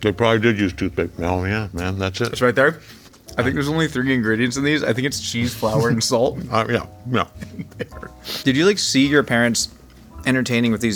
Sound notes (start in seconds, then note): 7.3 laughing